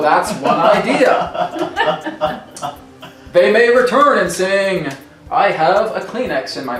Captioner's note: laughter